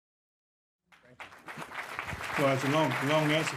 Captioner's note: audience clapping